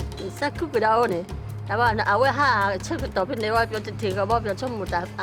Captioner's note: speaking in foreign language